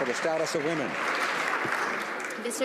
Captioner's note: some Applause